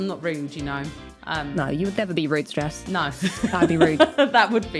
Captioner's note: laughs